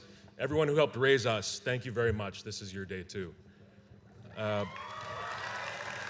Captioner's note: applause and cheers